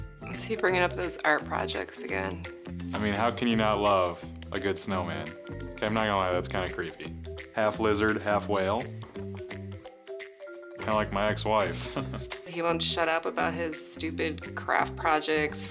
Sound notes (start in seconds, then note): 11.7 chuckles